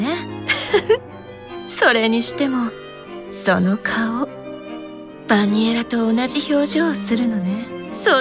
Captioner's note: giggle